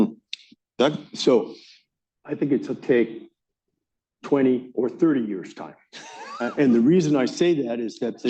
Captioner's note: laughter